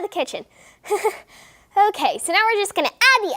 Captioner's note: nervous laughter